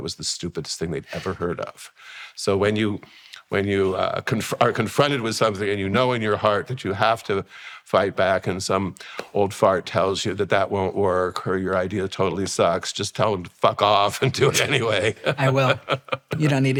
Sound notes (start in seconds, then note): 14.2 laughing